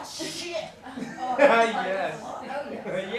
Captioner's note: audience murmuring